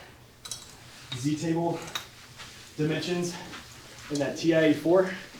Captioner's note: heavily breathing